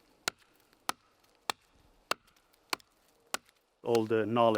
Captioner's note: ax chopping